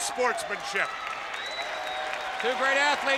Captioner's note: audience applauds and cheers